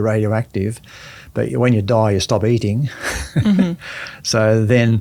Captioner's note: chuckles